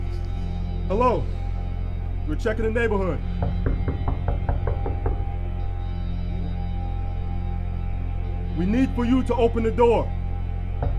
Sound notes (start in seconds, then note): 3.4 knocking on the door